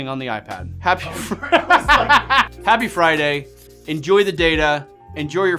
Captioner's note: laughing